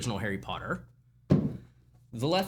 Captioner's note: book THUMPS